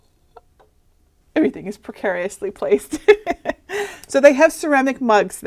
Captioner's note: laughing